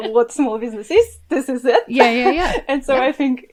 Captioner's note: laughs